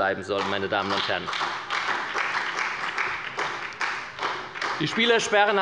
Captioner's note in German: Beifall bei Abgeordneten der SPD